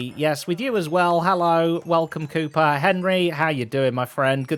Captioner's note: none